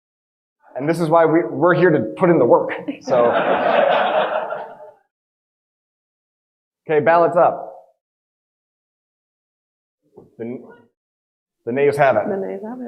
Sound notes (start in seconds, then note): 3.0 audience laughing